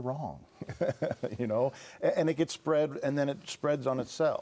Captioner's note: laughs